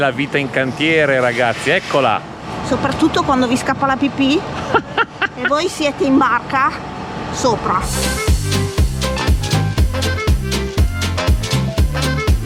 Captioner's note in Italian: risate